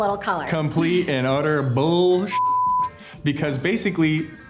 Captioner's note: beeping